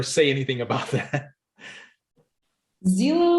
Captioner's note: laughs